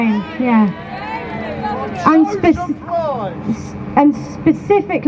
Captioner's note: crowd chants shame